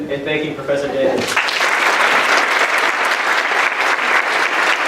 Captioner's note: applause